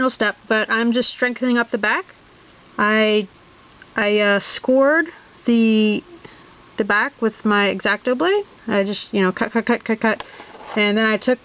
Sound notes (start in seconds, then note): 4.2 scrape